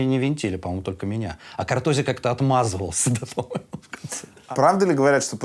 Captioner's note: laughs